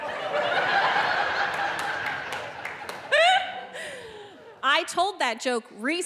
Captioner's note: audience laughing